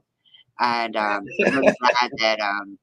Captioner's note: laughs